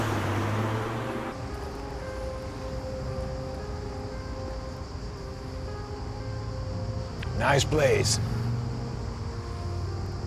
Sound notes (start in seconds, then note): 0.0 car engine revving; 1.8 insects chirping; 4.2 gentle music